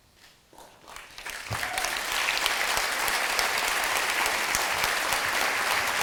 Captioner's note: audience applause